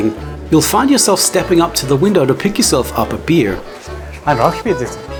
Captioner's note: German